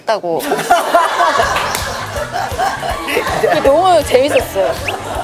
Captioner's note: haha!